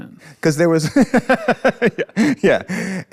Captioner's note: laughs